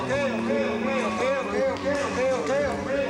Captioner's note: humming